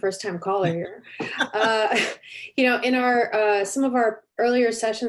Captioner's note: chuckle